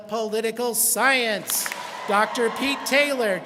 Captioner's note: students clap and cheer